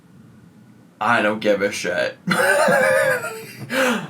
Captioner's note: laughs